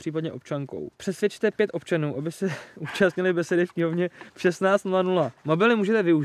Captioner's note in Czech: smích